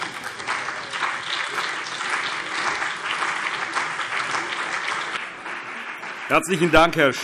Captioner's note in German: Beifall CDU und BÜNDNIS 90/DIE GRÜNEN